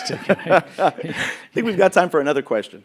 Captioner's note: laughing